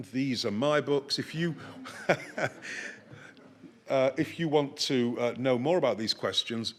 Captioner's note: chuckles